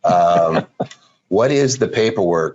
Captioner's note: laughing